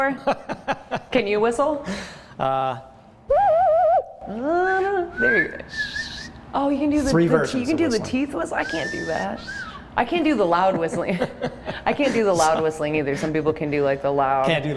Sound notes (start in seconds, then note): 2.4 laughs; 3.0 bird calls; 3.0 whistles; 12.0 laughs